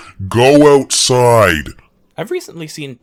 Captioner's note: deep and distorted